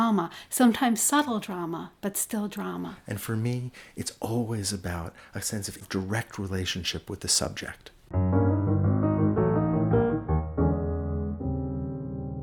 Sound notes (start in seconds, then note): 3.0 voiceover; 8.1 jazzy piano outro